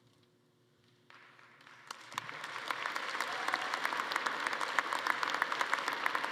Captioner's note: attendees applauding and cheering